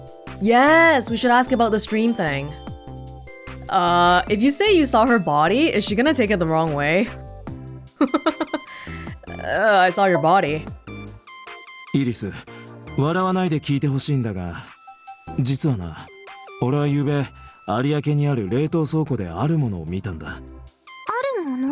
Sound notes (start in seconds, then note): 8.0 chuckles